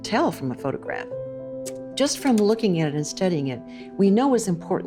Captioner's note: slide projector clicks